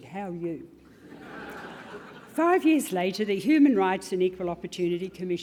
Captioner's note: laugh